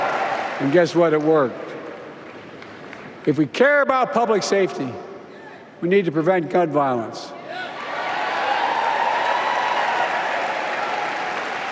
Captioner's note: applause